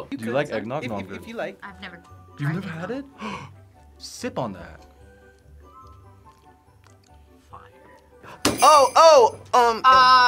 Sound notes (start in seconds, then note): 3.1 gasps; 8.5 bells jingling